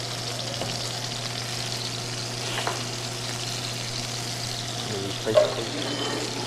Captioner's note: meat sizzling